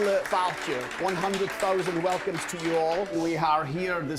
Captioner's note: with Scottish accent; applause